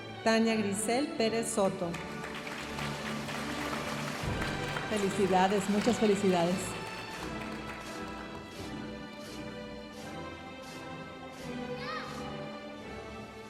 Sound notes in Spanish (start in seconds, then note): 2.0 aplausos de la audiencia; 8.4 continúa la música majestuosa suave en el fondo